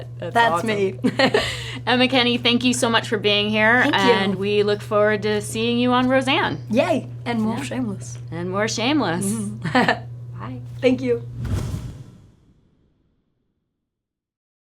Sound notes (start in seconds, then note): 0.0 laughs; 9.2 Emma laughs